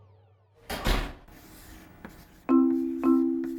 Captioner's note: door closes